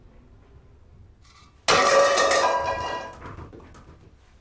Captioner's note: plate clatters